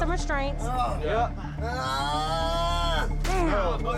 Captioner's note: groaning